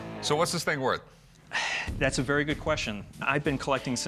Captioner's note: sighs